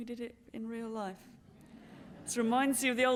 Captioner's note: laughter